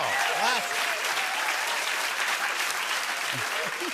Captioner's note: cheers and applause; chuckles